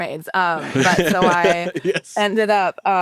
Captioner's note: laughs